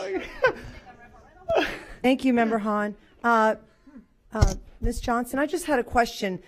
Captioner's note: laughter